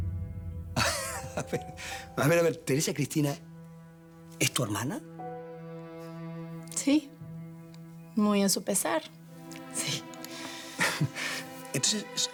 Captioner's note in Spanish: Riendo